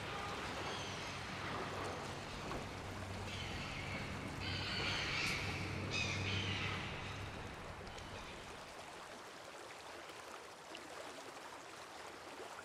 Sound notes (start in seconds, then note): 0.2 seagulls squawking; 7.6 water trickling